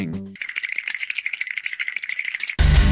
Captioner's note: bones rattling; suspenseful electric guitar music